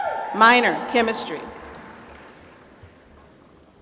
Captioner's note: applause